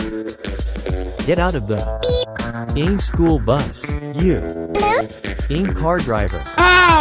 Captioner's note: beep